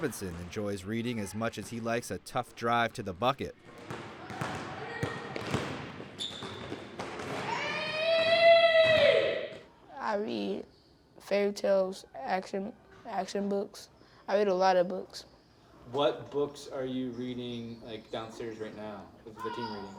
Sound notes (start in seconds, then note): 7.5 ball thumping; 7.5 footsteps tapping; 9.4 boy screaming